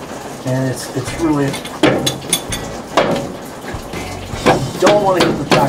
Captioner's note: banging